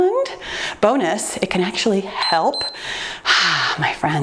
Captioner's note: timer beeps